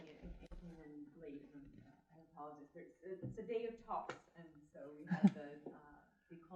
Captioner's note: audience member murmuring